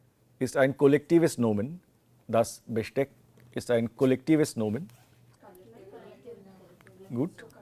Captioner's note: students Talking